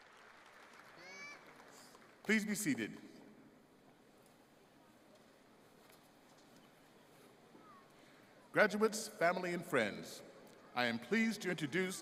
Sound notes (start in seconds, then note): 0.0 applause